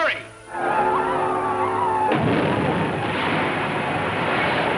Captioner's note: saucer squealing